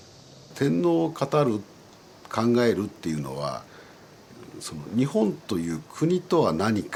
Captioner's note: professor speaking in Japanese